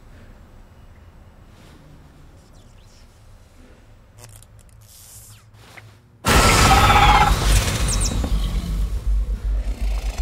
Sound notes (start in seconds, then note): 3.7 electricity buzzes; 6.3 creature screeching; 9.5 creature growling